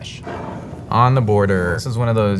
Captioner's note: jar sliding